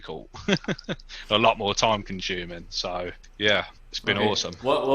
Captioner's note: laughs